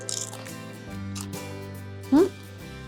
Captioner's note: chip crunches